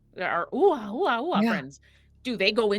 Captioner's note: mimics globs